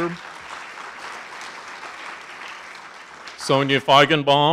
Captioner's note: audience applauding